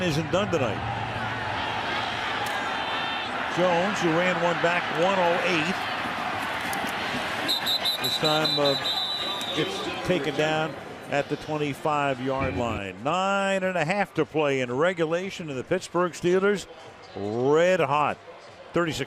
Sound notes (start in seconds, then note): 2.1 crowd cheering